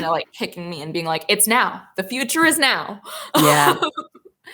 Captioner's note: laughs